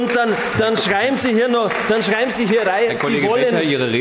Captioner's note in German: Beifall bei den GRÜNEN